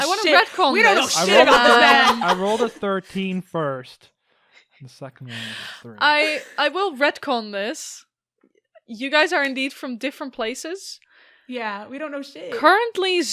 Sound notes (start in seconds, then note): 0.0 laughs